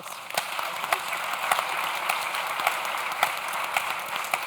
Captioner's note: audience claps